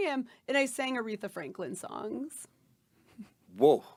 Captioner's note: laughing